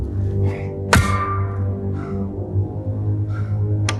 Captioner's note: shovel clanks